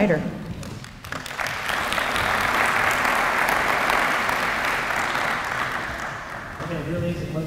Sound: applause

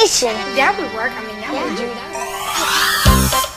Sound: muttering

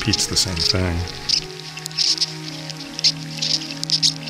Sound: insects chirping; gentle electronic music

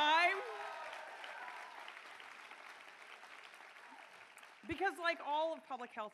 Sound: cheering

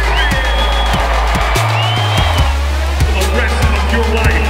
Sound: crowd cheering

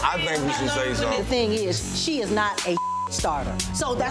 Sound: beep

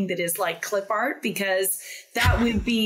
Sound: laughs

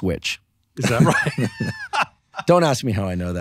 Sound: laughing

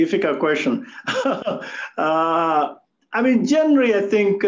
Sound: laughs

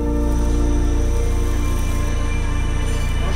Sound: blow torch heating and sizzling food

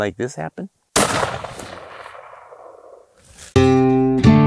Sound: firearm shooting; guitar music

